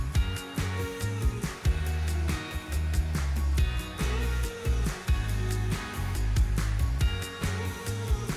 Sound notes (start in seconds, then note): 1.7 blower whooshing continues; 1.7 gentle upbeat music